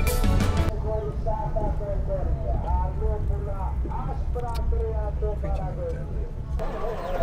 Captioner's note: loud greek announcment